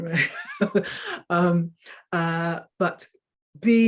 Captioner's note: woman chuckling